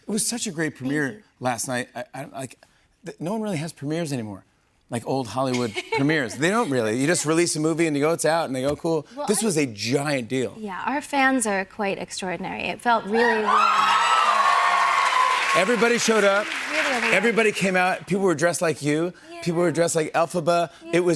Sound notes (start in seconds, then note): 4.2 laughs